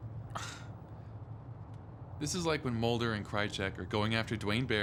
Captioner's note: scoffs